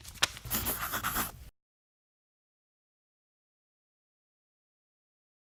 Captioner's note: pencil writing sounds